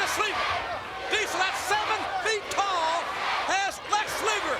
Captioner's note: crowd chants USA